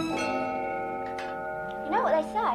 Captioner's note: clock chiming